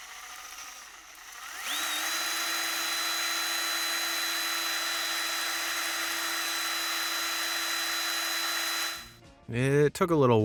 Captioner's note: drill trills